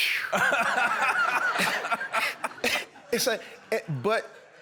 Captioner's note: laughter